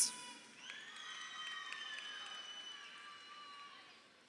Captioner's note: crowd cheering